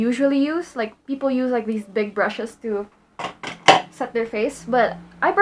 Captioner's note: sets things down